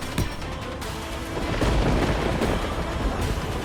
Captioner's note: thumping; thunder breaking